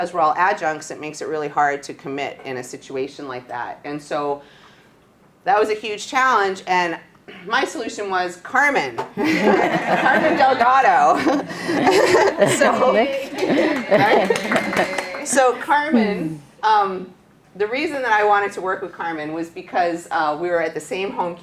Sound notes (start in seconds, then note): 11.5 laughing and clapping